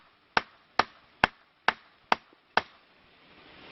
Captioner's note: tree knocking